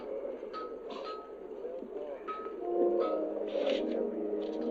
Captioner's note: metal clanging